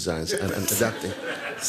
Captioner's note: audience laughs